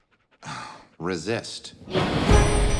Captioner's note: sighs